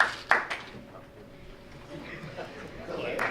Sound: crowd applauds

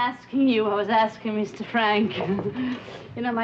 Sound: chuckles

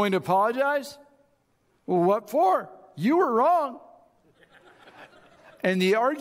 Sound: audience chuckles

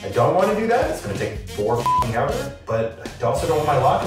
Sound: beep

